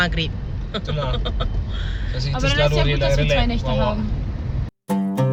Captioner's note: laugh